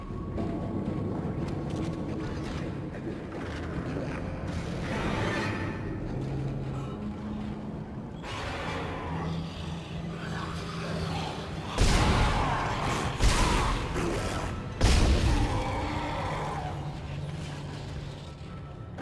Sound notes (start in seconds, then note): 0.2 dramatic music; 9.6 gunshots; 13.2 dramatic music